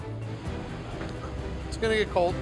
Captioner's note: foot thudding